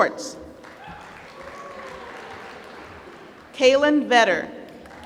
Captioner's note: applause